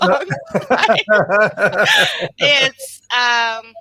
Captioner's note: all laugh